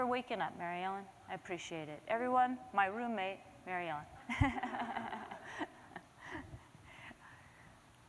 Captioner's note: laughter